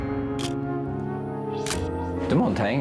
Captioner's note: camera shutter click